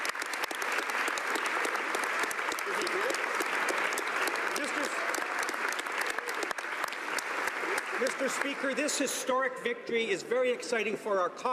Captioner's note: applause